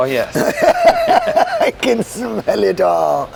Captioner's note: laughs